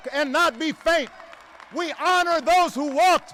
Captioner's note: applause